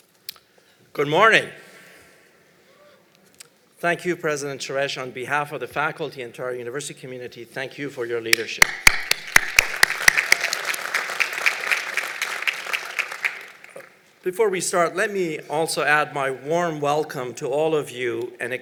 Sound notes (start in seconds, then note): 8.6 applause